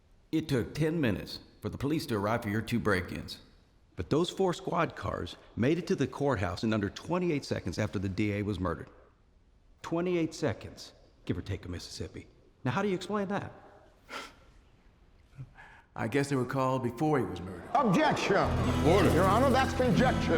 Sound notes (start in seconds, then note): 13.9 scoffs; 18.4 people murmur loudly